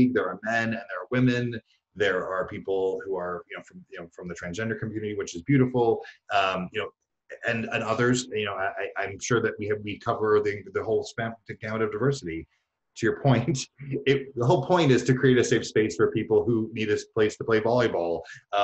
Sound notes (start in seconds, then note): 13.8 chuckles